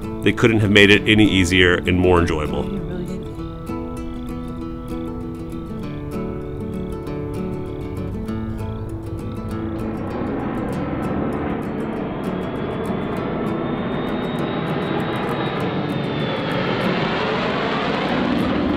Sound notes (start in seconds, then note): 6.1 soft guitar strumming; 10.6 plane engine roaring